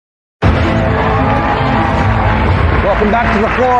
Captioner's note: cheering and applause